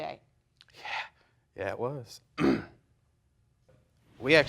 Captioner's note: clearing throat